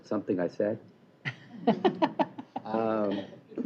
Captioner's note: laughter